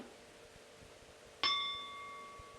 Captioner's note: bell Sound